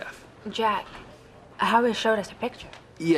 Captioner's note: none